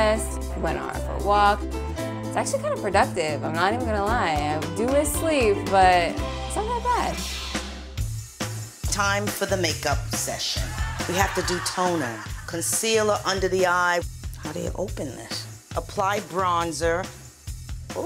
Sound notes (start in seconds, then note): 7.8 upbeat rock music; 10.6 audience laughing